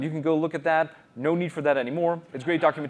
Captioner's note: laughter